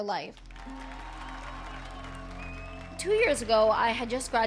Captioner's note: applause